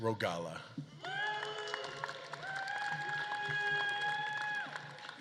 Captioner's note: audience claps and cheers